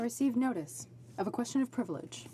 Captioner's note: speaking French